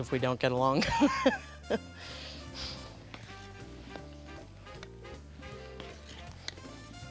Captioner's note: laughter